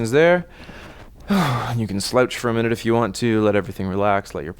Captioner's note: exhales